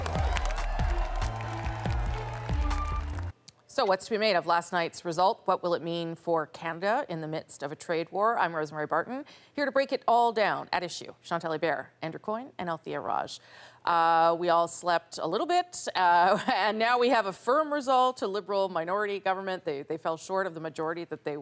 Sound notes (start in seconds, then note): 4.1 applause